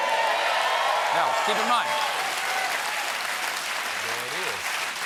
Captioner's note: cheers and applause